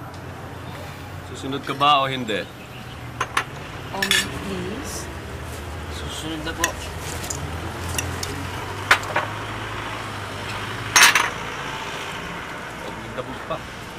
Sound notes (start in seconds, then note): 10.9 glass clatters